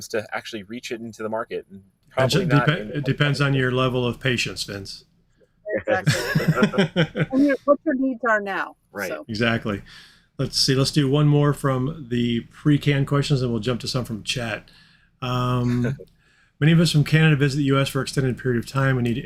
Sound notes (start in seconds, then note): 5.8 all laughing